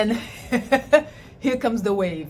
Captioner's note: chuckles